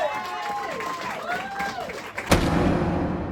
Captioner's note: cheers and applause